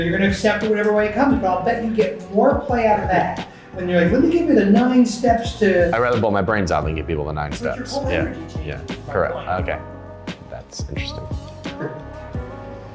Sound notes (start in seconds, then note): 7.4 men mumbling